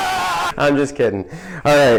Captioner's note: screaming